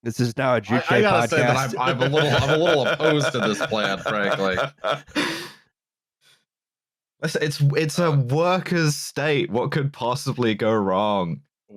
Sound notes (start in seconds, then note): 0.7 chuckles